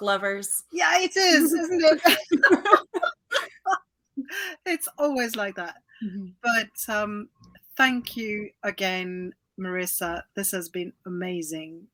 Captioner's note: laughs